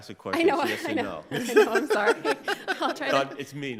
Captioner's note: laughs